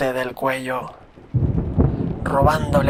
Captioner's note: thunder sound